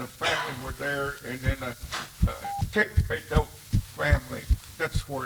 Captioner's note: speaking Kiowa